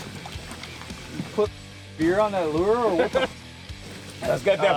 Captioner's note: laughing